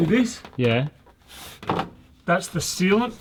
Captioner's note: groaning